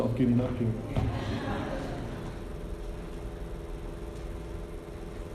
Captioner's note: all chuckling